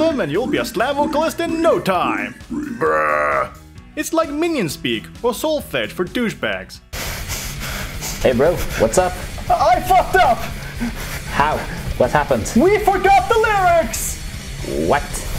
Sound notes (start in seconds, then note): 6.9 stressful breating instressified